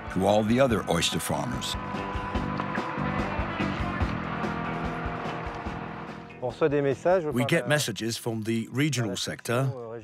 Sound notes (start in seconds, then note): 2.3 lively music; 6.8 speaking in foreign language